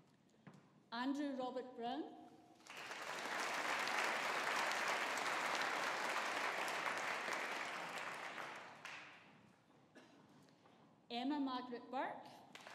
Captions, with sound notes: Andrew Robert Brown. (AUDIENCE APPLAUDING) Emma Margaret Burke.